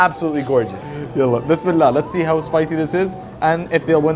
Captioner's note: speaks Arabic